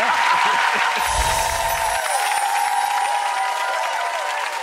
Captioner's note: applause